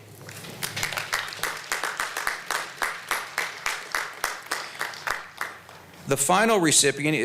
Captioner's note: applause